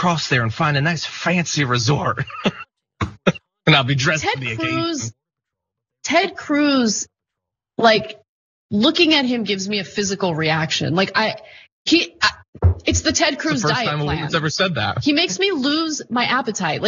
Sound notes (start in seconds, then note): 2.0 laugh